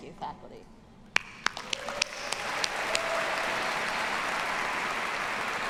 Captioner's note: audience applauding